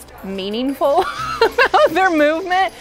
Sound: laughing

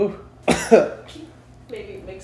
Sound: coughing

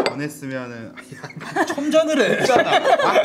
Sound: laughs

